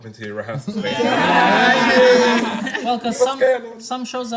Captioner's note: everyone laughs